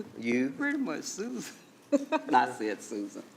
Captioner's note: laughs